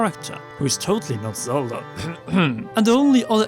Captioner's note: cough